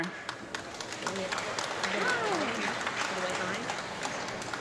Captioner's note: audience clapping